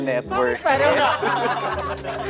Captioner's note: laughter